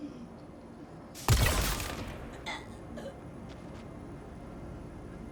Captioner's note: gun firing